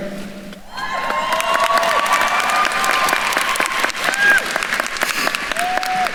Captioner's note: attendees cheering and applauding